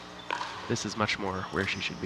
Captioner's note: ball bouncing